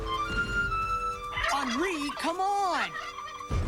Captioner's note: gobbles; imitating turkey